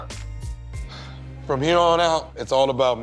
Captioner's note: sighs